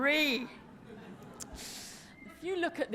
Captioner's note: laughter